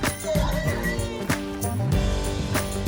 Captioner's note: horses neighing